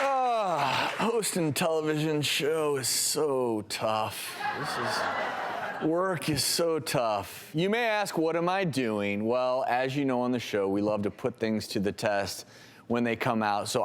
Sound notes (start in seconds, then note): 4.4 laughing